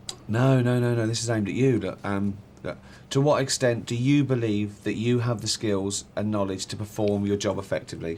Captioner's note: none